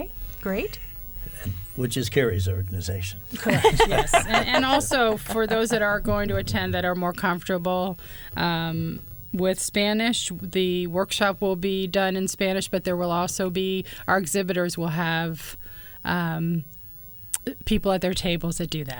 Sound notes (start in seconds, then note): 3.3 laughter